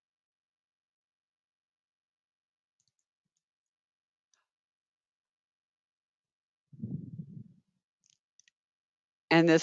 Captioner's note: 9 seconds pause